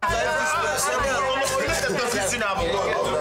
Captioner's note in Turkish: none